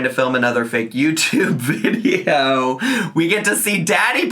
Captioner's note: laughs